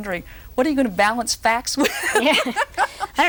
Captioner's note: roaring laughter